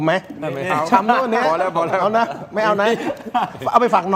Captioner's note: laughter